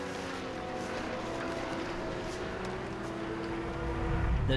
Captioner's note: truck engine revving